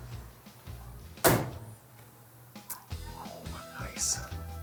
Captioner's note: soft music; car door slams shut